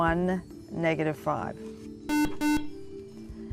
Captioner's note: buzzer